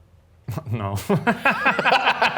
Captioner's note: both laughing; chuckles